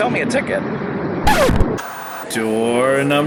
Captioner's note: record scratching; white noise scratching